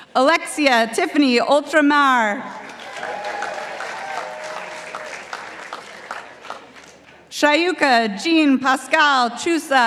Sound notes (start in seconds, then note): 2.5 participants applauding